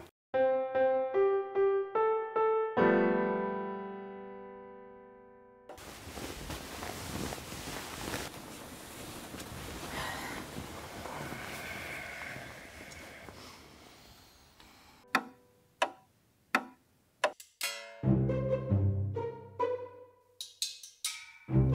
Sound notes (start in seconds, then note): 0.3 piano plays and goes off key; 15.1 clock ticks; 17.6 quirky music